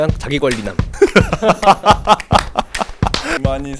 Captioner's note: laughs